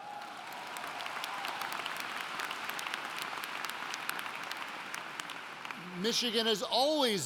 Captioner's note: applauding